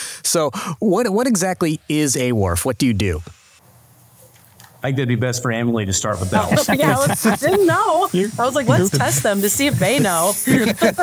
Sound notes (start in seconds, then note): 6.3 group laughing